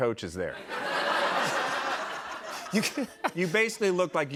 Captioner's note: laughter